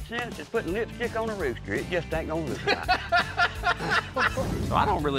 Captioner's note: laughter